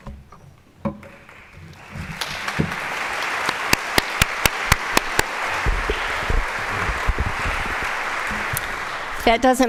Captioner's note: applause